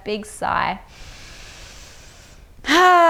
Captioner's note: inhales deeply